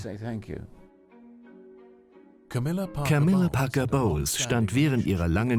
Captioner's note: voiceover